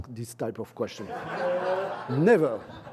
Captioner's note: laughter